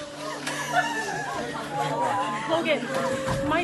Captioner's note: students crying